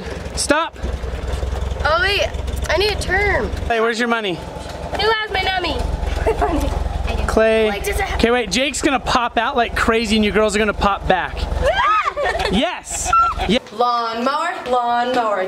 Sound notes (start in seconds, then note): 6.0 laughs; 11.5 girls scream and laugh